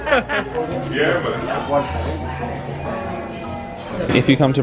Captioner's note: both laugh; indistinct background chatter